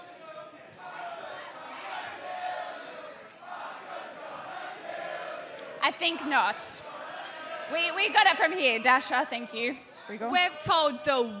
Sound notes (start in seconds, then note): 0.0 fans chanting